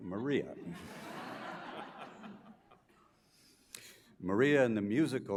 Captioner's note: audience laughs